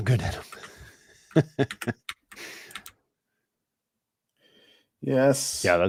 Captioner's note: laughs